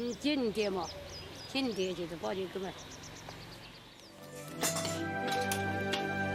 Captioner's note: speaking in foreign language